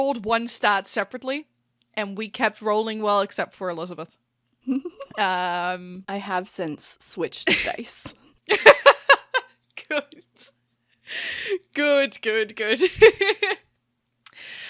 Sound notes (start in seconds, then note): 4.6 laughs; 8.5 laughing